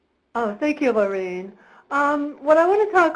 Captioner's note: voiceover